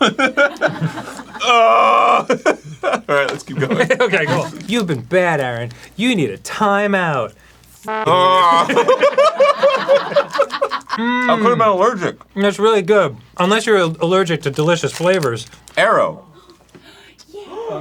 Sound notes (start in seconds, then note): 1.4 groaning with regret; 8.0 protesting moans from being force fed; 16.7 excited gasps